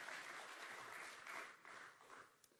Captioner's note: applause